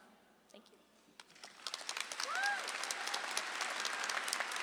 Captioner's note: audience applauds